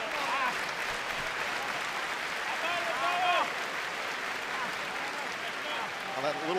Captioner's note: clapping